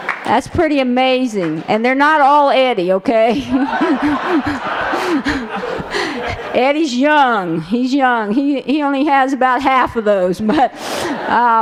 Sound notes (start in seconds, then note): 3.3 laughter